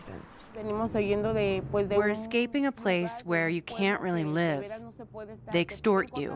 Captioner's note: through translator